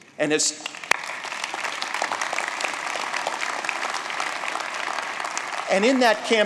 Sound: applause

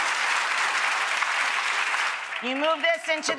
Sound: applause

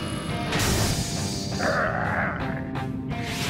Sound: growling

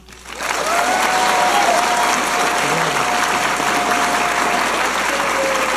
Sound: audience applauding and cheering

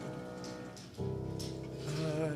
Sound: dog footsteps

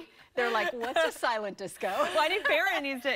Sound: laughter

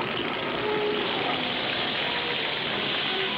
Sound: water Spray Noises

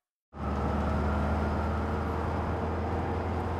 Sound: police sirens

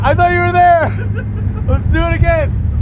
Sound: laughing

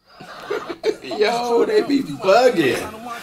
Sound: both laugh

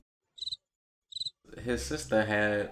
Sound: crickets chirping

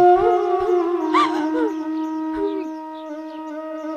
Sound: cry

